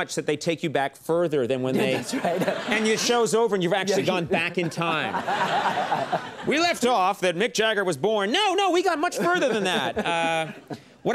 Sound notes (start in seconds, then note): 3.8 Ken and the audience laugh